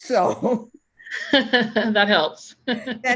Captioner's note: laughs